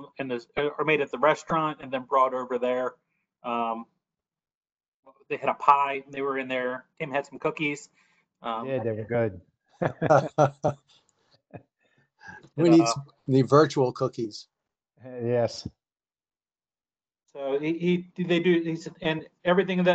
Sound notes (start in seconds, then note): 9.8 both chuckle